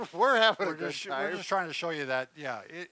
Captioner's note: scoffs